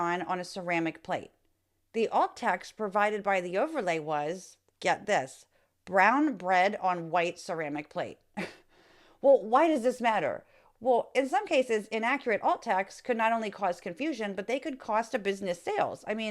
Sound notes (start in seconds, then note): 8.4 chuckle